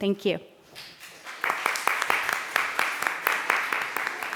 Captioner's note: applause